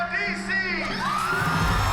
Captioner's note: cheering